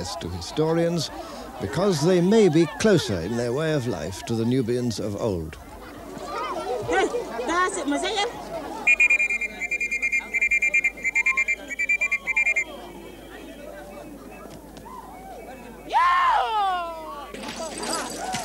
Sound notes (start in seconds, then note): 6.5 non-english speech; 8.8 blows whistle